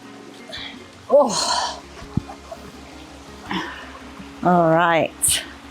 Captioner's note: groan